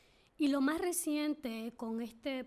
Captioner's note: speaking spanish